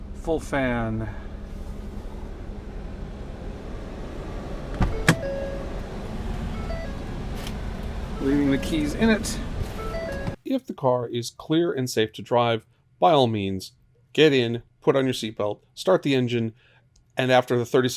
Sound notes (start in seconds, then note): 3.0 fan rushing noise; 9.6 door opening